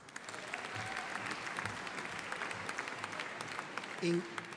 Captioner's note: audience applauding